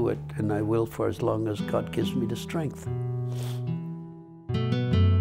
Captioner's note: sniffs